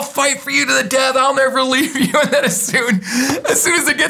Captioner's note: laughing